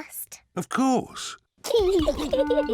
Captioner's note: both giggle